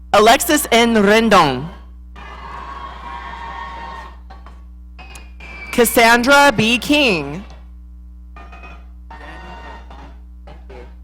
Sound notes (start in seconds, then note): 2.2 audience cheering